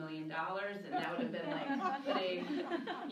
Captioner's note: laughing